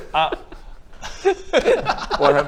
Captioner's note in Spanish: llorando de risa; risita